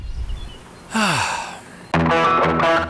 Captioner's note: sigh